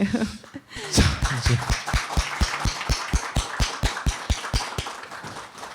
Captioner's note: applause